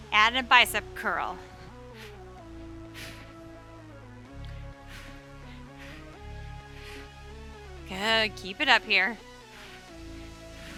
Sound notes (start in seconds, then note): 1.3 breathing deeply; 2.0 upbeat music continues